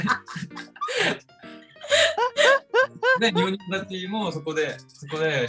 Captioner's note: laughs